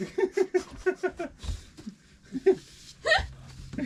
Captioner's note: laughing